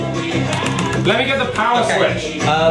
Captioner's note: frantic tapping